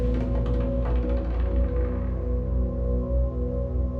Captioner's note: objects clattering; ominous music continuing